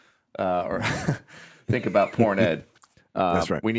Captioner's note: laughs